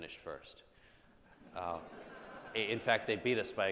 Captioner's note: audience laughs